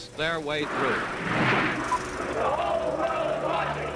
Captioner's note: soundbite of archived recording; chanting